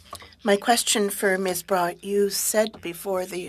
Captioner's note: speaking French